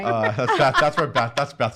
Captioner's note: laughing